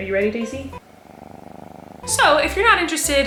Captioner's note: cat purring